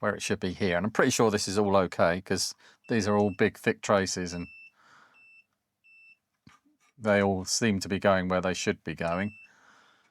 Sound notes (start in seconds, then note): 4.6 silence